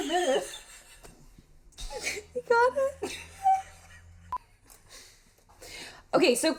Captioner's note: laughing